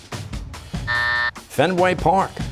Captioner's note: buzzer